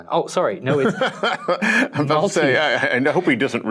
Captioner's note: laughing